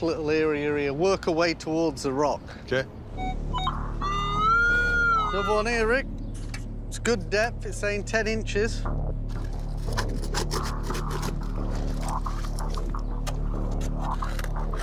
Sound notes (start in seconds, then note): 3.1 beeping; 3.1 siren